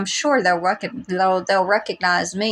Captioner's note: blubber